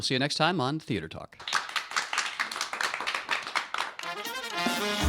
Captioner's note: applause